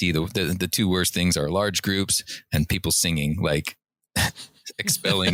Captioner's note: laughter